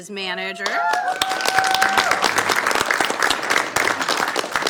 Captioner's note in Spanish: aplausos